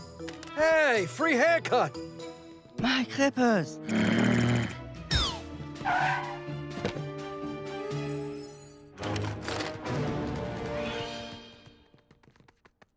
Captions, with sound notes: Hey, free haircut. My clippers. [growling]